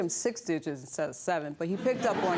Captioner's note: audience laughs